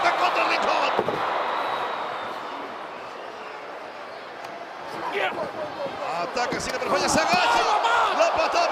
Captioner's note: applause